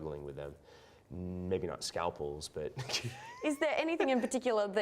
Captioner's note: laughs